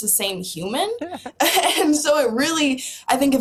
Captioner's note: both laugh